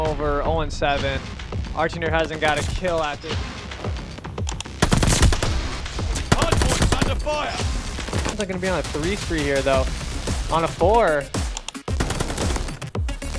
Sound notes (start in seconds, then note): 6.1 in-game sound effects